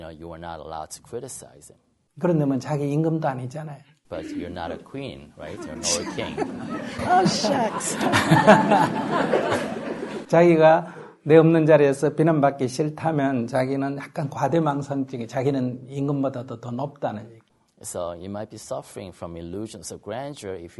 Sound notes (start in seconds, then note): 8.7 Audience/Sunim laughter